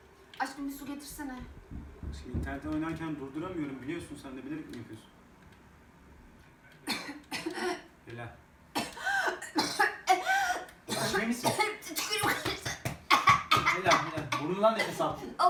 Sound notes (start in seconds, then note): 6.8 coughs